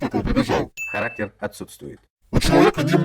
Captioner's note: voiceover